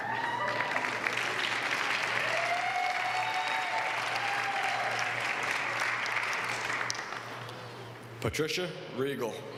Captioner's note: applause